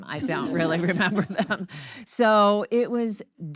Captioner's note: audience laugh